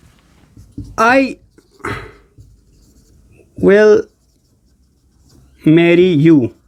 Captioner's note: sound of clearing throat